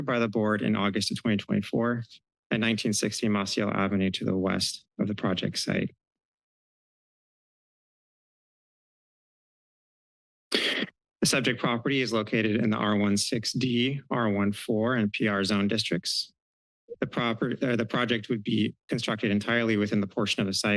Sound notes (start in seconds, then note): 5.5 silence